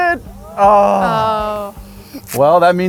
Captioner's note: groans